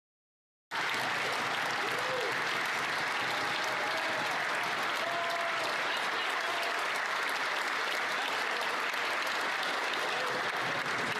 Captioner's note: applause